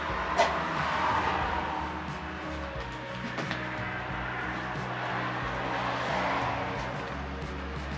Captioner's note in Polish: Aplauz